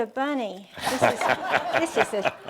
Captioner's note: chuckles